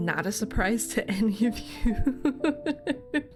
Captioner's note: laughs